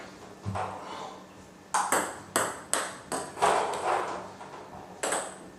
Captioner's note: ball ping pong hitting continues